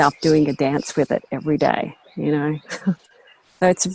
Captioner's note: chuckles